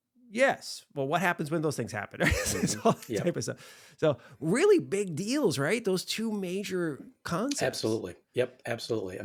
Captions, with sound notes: Yes. Well, what happens when those things happen? (laughs) So really big deals, right? Those two major concepts. Absolutely, yep, absolutely.